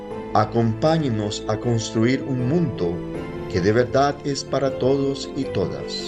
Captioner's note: immigrant speaking in foreign language